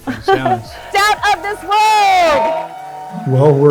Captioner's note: crowd cheering